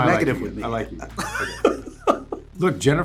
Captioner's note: laughs